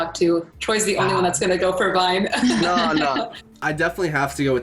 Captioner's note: laughs